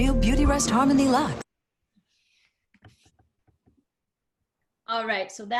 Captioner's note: silence